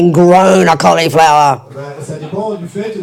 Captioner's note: speaking in French